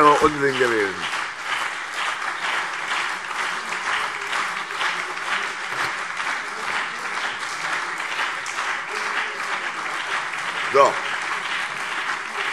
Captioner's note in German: Anhaltender Beifall CDU und BÜNDNIS 90/DIE GRÜNEN